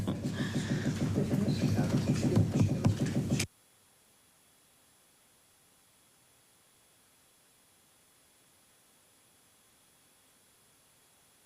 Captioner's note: laughter